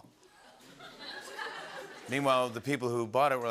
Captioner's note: laughter